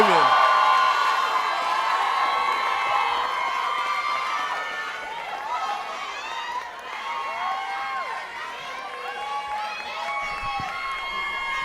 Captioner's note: cheering